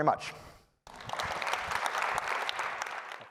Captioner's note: applause